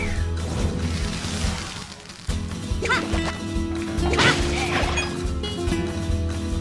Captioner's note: fire crackles; western music continues